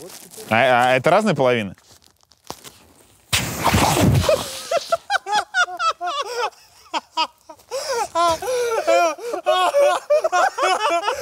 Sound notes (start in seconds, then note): 4.2 all laugh; 7.6 cameraman laughs hysterically